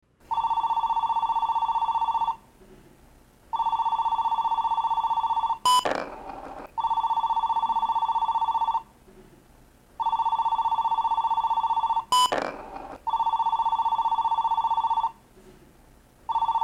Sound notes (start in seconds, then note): 0.2 telephone ringing; 5.2 beeping; 5.8 ball rolling; 6.9 telephone ringing; 11.9 beeping; 12.3 ball rolling; 13.6 telephone ringing